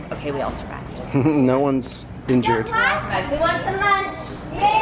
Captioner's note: chuckles